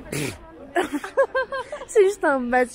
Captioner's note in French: rire